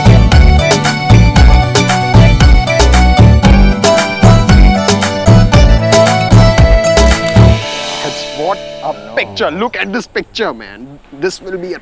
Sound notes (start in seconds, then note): 6.9 Cameras clicking